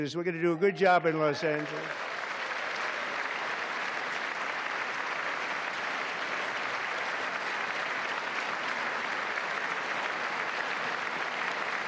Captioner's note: applause